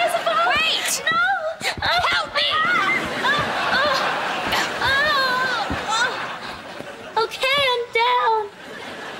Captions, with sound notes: - Wait! - No! Help me! [groaning] Okay, I'm down.